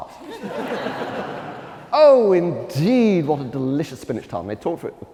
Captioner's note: laughter